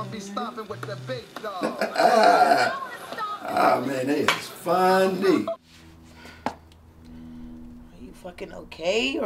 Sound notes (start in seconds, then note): 1.6 Tony laughs